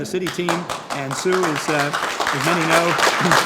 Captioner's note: group applauding